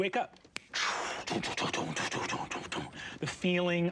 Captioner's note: mimicking wagon wheels clattering